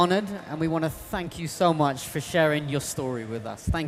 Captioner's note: applause